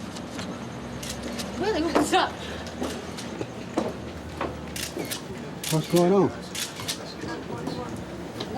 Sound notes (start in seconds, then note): 1.3 laughingly